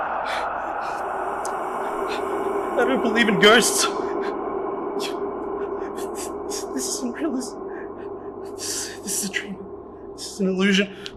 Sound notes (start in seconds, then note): 0.2 A ghostly moan; 5.0 scared Stutter